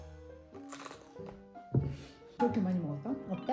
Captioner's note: Crunch